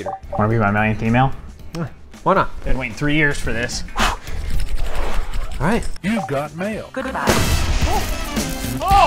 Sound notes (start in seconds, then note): 4.0 exhales